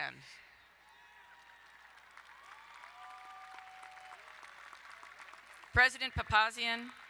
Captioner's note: crowd cheering and applauding